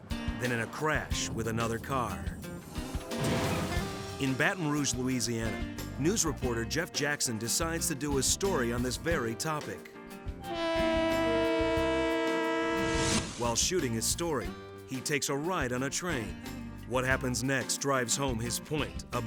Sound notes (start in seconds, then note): 2.2 vehicles thudding; 10.4 train horn honking